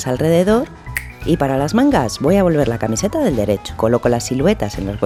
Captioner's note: snap